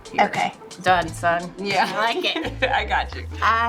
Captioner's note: laughing